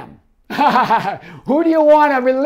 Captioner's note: laughs